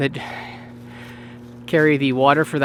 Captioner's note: out of breath